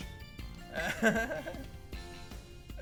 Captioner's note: chuckles